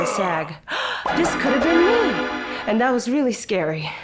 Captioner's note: gasps